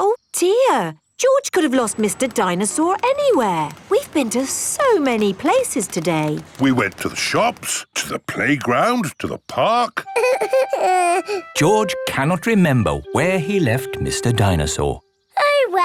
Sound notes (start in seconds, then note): 10.2 whimpers